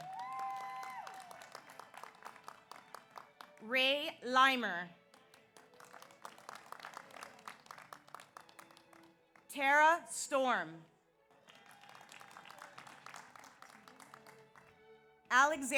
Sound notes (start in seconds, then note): 0.0 audience cheers; 0.0 audience applauds; 5.1 audience applauds; 11.4 audience applauds; 11.6 audience cheers